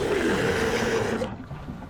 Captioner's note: roar